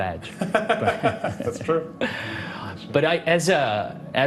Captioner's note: laughs